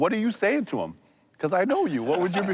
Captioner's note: laughing